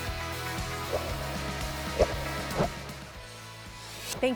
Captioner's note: swiping sound